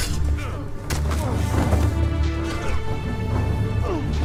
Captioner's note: grunting and struggling